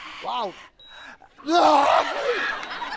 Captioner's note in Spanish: Grita; Risas